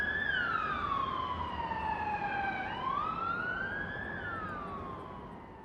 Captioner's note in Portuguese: som de sirene